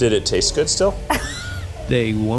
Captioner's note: laughs